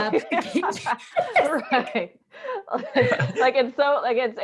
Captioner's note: laughing